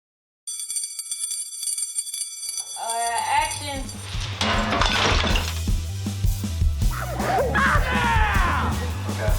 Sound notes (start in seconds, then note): 0.4 school bell ringing; 6.8 laughing, yelling